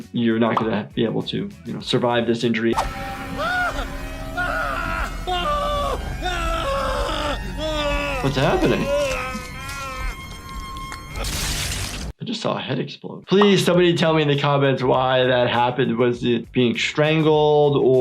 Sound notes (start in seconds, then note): 3.1 security guard screaming; 3.1 intense music